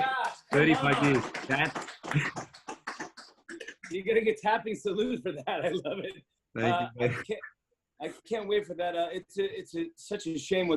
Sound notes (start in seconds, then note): 0.2 clapping, tapping